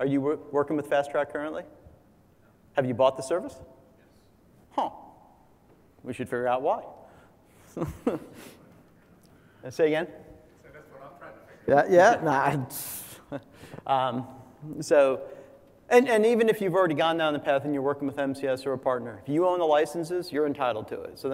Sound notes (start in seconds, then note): 12.2 laugh